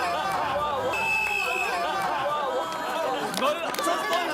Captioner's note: he blows the whistle